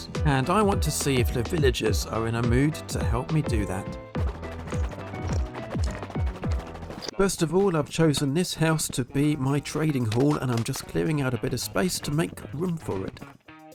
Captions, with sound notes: And I want to see if the villagers are in a mood to help me do that. (Rapid boat paddling) First of all, I've chosen this house to be my trading hall, and I'm just clearing out a bit of space to make room for it.